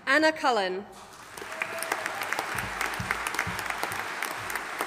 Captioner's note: audience applauding